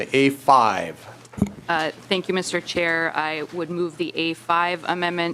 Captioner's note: gavel